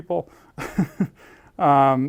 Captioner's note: laugh